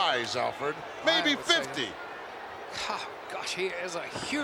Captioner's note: Yokozuna claps